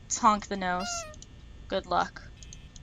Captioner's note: honk